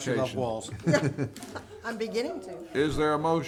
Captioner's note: some laughing